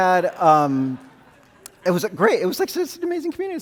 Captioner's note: audience laughing